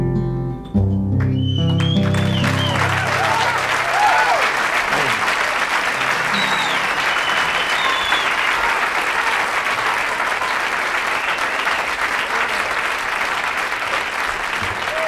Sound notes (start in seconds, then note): 1.8 audience cheers